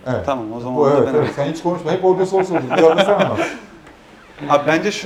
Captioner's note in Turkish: kahkaha